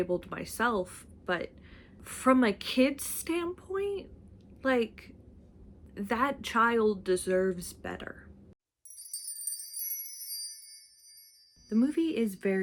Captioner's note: sparkle noise